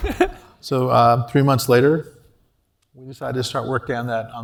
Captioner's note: laugh